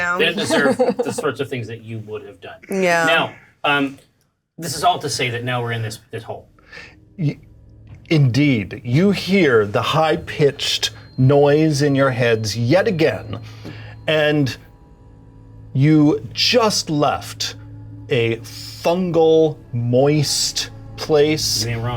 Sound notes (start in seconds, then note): 6.7 eerie music; 12.2 high pitch ringing